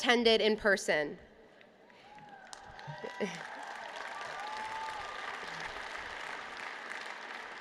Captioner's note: applause